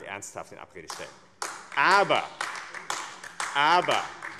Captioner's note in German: Beifall AfD